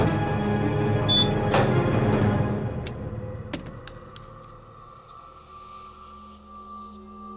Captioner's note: alarm beeps; door lock clicks; ominous music